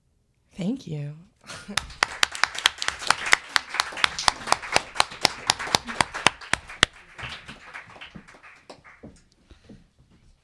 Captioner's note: applause